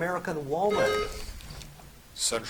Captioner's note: buzzer chiming